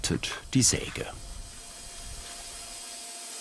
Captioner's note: saw screeching